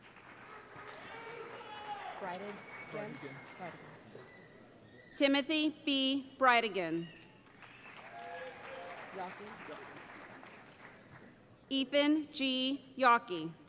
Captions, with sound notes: [ Cheering ] Timothy B. Breidigan [ Cheering ] Ethan G. Yaukey